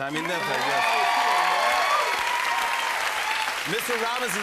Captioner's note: cheers and applause